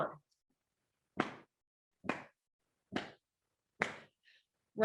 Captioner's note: woman clapping